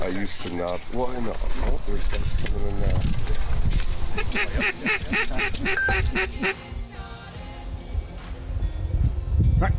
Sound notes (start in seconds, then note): 4.1 duck quacking